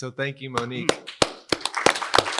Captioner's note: applause